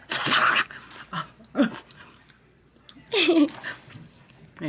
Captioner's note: mouth squelching; laughing